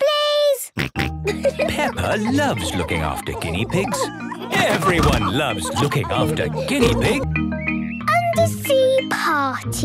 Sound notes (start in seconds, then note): 6.4 laughter